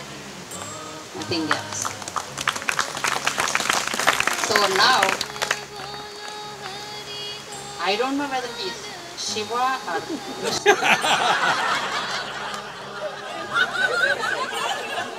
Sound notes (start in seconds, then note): 10.1 laughter/Applause